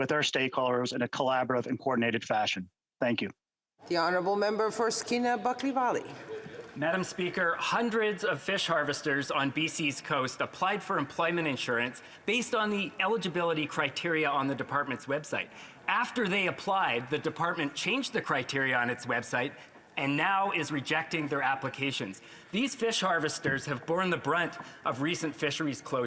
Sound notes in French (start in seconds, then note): 11.9 voix de l'interprète